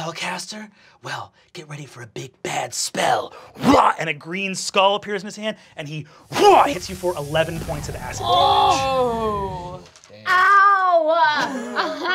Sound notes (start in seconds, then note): 5.3 grunts; 8.1 groaning; 11.3 laughing